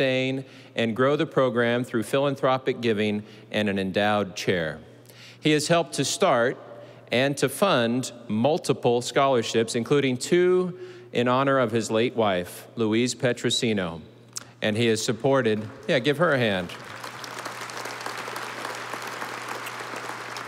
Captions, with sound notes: and grow the program through philanthropic giving and an Endowed Chair. He has helped to start, and to fund, multiple scholarships, including two in honor of his late wife, Louise Petrosino. (audience applauding) Yeah, give her a hand.